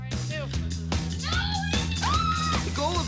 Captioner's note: squeals